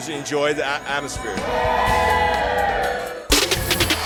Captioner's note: crowd cheer